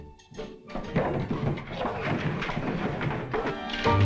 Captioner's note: rattling sound